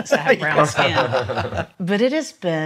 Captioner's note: laughs